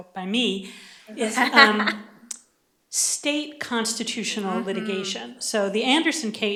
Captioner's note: laughter